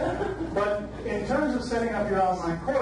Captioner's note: audience laughs